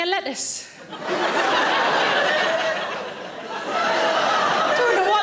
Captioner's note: audience laughing